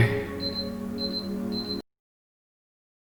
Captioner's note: beeping